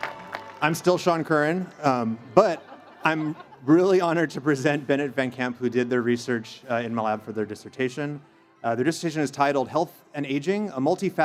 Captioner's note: cheers and Applause